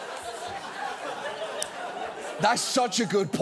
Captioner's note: audience laughs